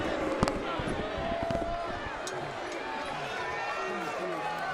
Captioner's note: audience jeers